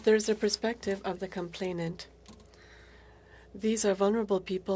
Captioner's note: speaking French